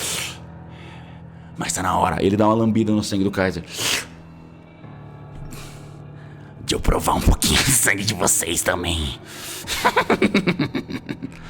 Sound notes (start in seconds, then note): 3.8 slurp; 9.7 laughs